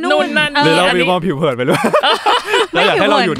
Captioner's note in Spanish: Risas